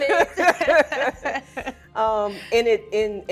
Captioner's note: both laughing